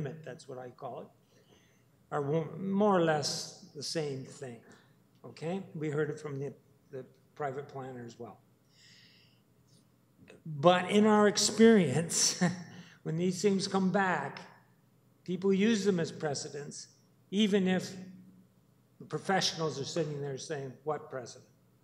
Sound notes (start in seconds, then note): 12.3 chuckles